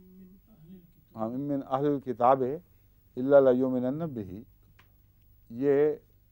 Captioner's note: Arabic